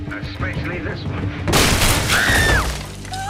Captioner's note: door breaking; woman screaming